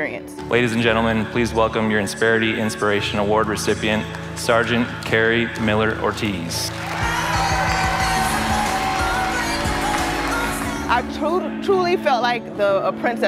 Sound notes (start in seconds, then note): 5.6 applause